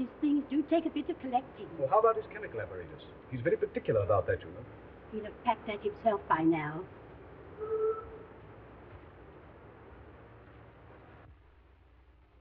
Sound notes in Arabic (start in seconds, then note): 7.5 صوت البوق